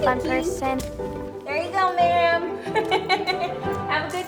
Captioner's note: laughs